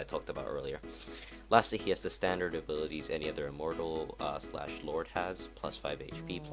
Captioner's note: gross breathe-in